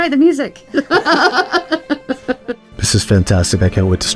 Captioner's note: laughs